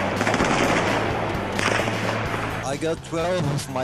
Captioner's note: gunshots